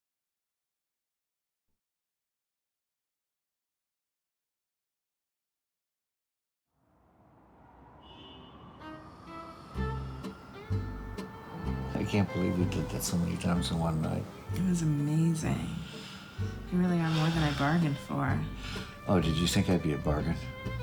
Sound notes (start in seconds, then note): 7.5 traffic din; 8.8 relaxing violin instrumental